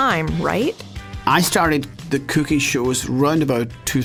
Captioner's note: Scottish accent